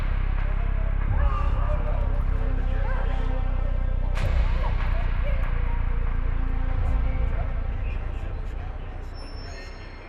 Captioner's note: suspenseful music; background people screaming, crying